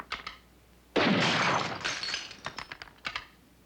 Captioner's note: gunfire